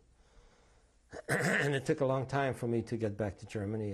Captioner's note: clears throat